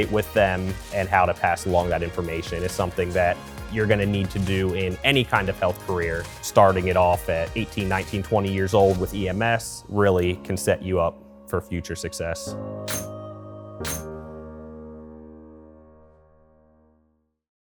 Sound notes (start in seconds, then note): 12.8 lively music; 12.9 doors clanging